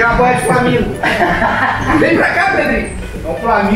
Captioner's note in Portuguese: risadas